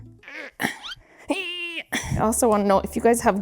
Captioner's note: grunting